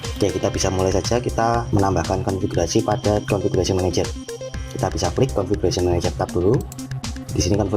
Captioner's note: click